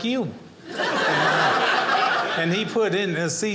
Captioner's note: audience laughing